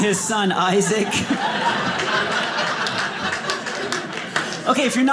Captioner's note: audience laughing